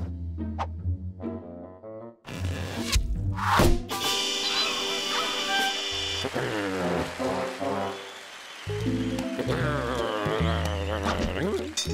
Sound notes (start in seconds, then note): 5.7 cheers and applause; 9.4 grumbling